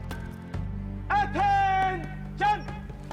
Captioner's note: voiceover